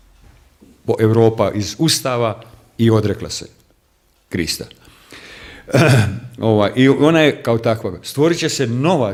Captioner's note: coughs